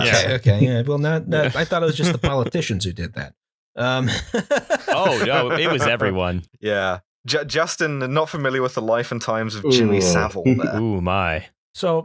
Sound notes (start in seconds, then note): 3.9 laughter